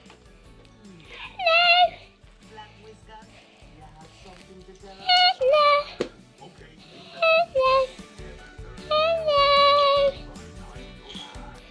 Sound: child's voice speaking for the elf

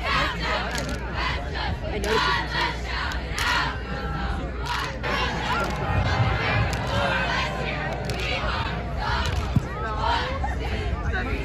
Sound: cheer

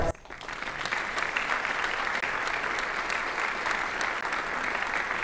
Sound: audience applauding

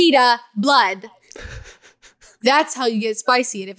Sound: laughs

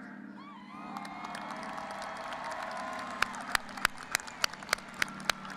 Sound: audience applauding and cheering

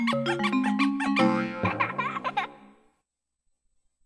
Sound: boing, child laughing

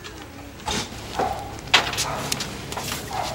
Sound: dog barks

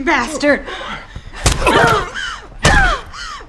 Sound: both grunting

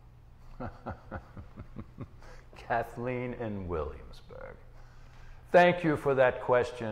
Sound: laughing

